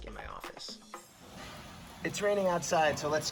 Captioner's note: rain